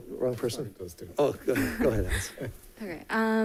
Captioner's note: speaking faintly